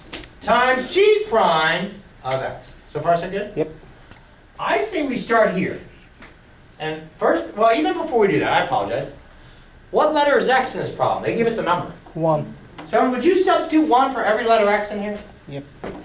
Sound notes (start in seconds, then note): 12.7 voiceover